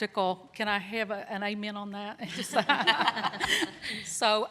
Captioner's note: laughter